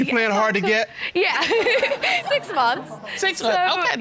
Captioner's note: chuckles